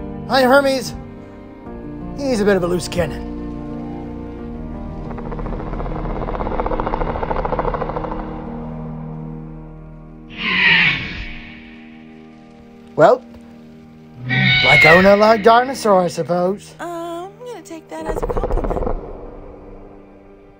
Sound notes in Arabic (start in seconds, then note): 4.7 الديناصورات تتذمر